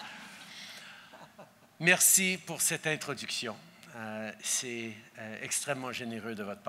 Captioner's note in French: Rires